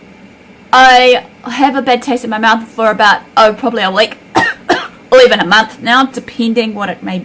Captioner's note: cough